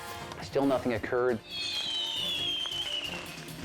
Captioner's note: fireworks hissing